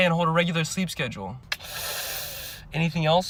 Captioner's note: tskkkkkssss